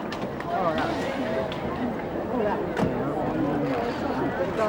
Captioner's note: crowd chattering